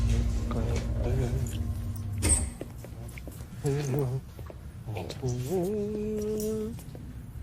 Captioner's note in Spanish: Horacio tararea